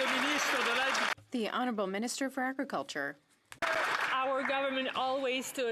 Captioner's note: some Applause